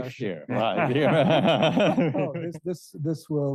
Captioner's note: all laughing